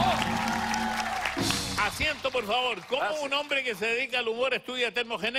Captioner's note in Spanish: aplausos